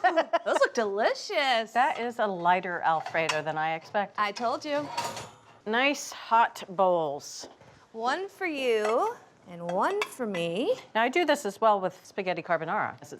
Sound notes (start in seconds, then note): 0.0 laughing; 4.7 rack clanging